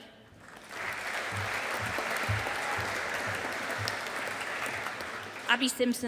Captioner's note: audience applauding